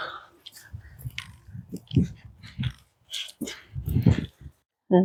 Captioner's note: footsteps